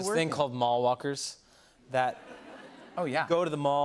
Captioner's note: laughter